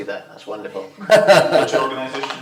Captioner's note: laughs